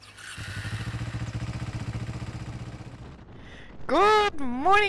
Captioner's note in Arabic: زقزقة طيور; خرخرة محرك دراجة نارية